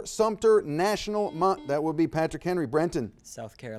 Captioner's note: buzzer dings